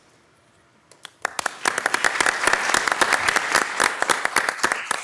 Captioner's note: audience applauds